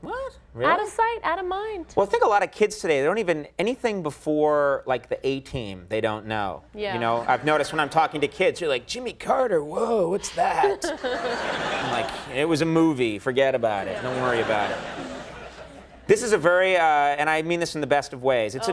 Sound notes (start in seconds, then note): 10.5 audience laughing; 13.8 audience laughing